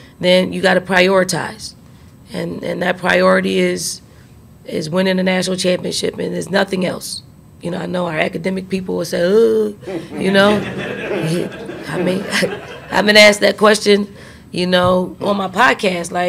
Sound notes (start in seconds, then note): 9.8 reporters laugh